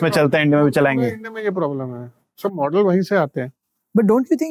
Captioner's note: speaking in Hindi